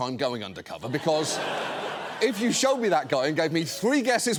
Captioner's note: audience laughing